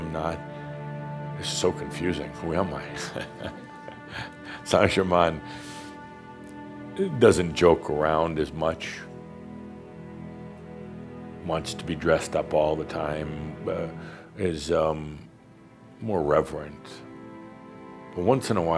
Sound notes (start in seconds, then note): 3.0 Adamus chuckles